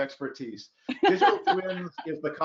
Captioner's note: laughs